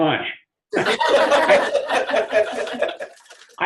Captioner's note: laughter